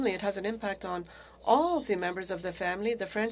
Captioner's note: speaking French